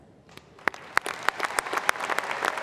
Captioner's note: applause